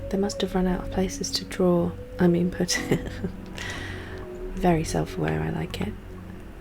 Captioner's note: laughs